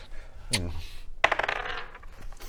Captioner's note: kiss